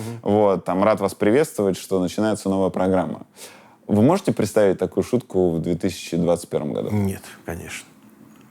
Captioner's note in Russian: none